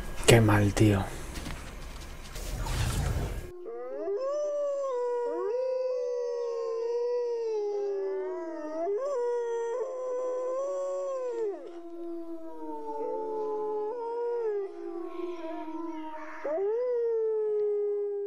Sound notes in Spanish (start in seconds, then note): 2.5 Aullido Lobo